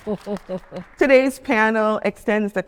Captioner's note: attendees applauding